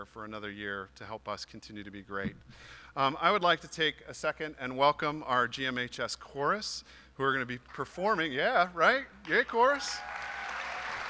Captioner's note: applause